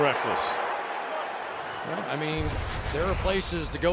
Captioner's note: crowd roars